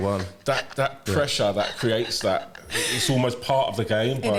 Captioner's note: laughter